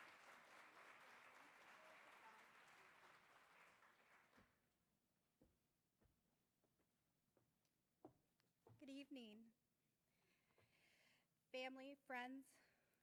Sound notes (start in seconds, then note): 3.1 applause